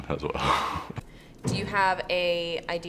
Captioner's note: laughs